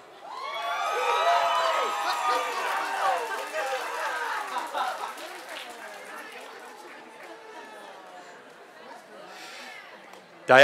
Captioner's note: applause